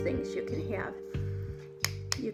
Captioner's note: tapping sound